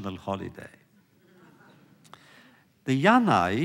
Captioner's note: laughter